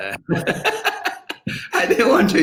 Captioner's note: laughter